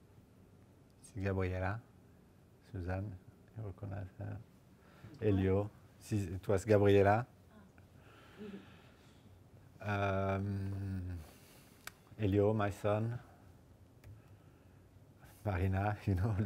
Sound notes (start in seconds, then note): 1.9 speaks in foreign language